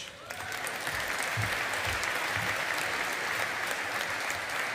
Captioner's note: audience applauding